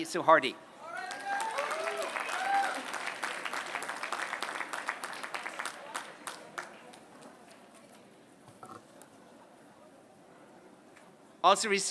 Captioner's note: applause